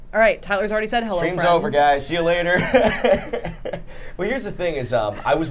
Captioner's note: laughing